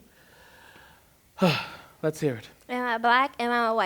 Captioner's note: exhales